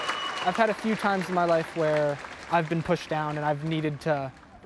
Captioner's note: cheers and Applause